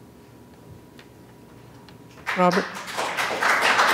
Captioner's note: applause